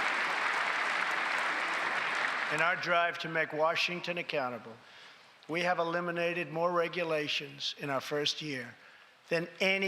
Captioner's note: applause